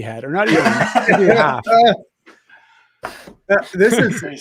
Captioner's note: all laughing